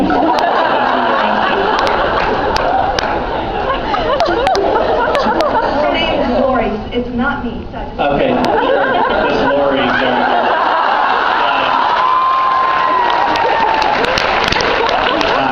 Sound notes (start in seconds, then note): 0.0 laughs; 8.2 laughs; 11.9 laughs, cheers; 12.8 laughs, cheers, applauds